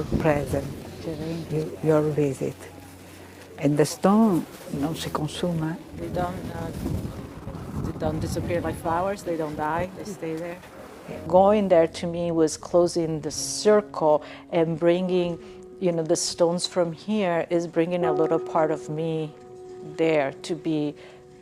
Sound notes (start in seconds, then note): 4.9 speaking in foreign language